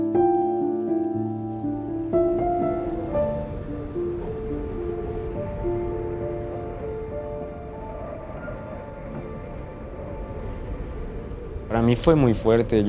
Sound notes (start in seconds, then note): 3.4 melancholic music continues; 9.6 wind blowing